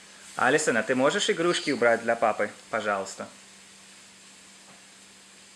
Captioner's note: speaking in foreign language